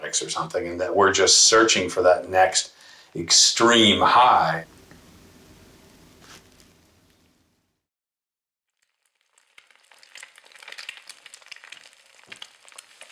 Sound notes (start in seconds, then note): 8.7 eggs sizzling